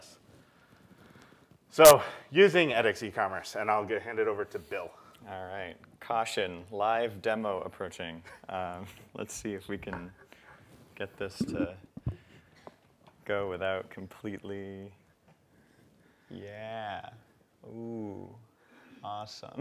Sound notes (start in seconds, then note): 8.3 laugh